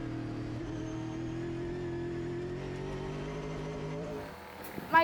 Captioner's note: engine whirring